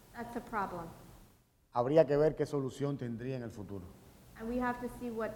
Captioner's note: speaking in Spanish